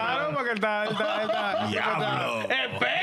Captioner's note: speaking In Spanish